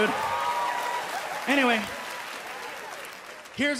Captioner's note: applause, cheering